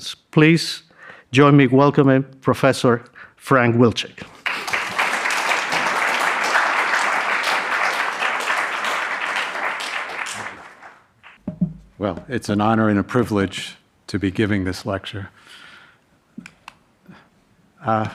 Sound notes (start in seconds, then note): 4.4 audience applauding